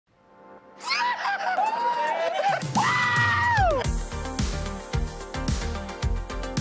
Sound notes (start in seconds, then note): 0.8 exclaiming; 3.1 bouncy music